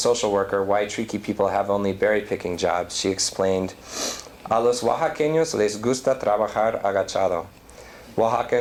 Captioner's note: non-english